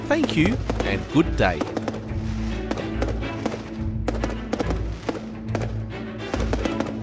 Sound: bright music; fireworks exploding loudly

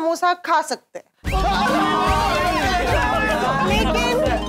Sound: cheering

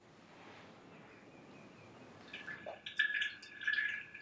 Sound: dripping grease sound

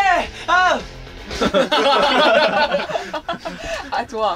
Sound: bursting out laughing because of the weak exclamation

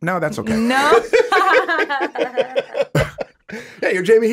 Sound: all chuckling

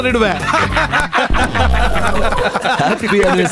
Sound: laughs

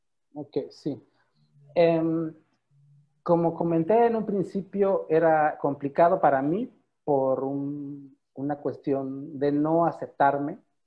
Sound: in Spanish

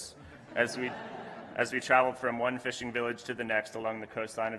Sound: laughter

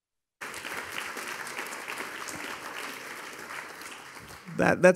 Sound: audience applauding

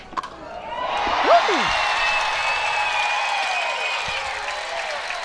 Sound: audience cheering

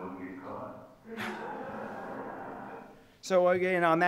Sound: people laughing

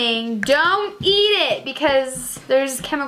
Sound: snaps jaw

